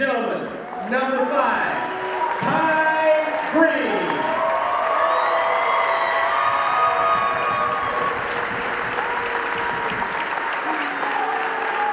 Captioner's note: cheering